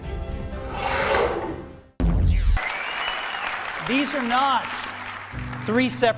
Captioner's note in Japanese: 鼻息; 拍手